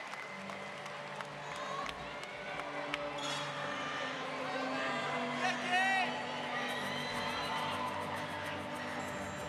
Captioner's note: applause